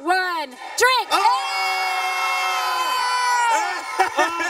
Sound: all shouting; Ethan laughs

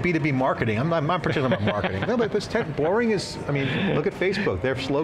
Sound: laughs

